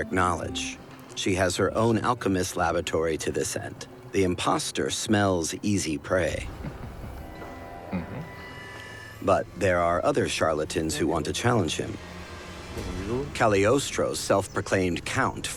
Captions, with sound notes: She has her own alchemist's laboratory to this end. The impostor smells easy prey. [Casanova sniggers] But there are other charlatans who want to challenge him. Cagliostro, self-proclaimed count from Palermo.